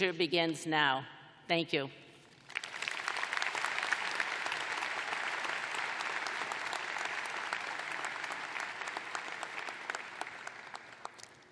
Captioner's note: applause